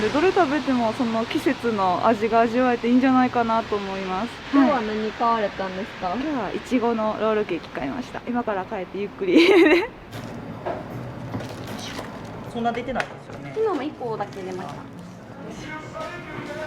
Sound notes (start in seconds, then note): 9.3 laughter